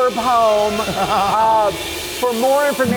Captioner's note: Carson laughs